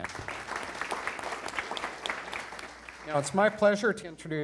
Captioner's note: attendees applauding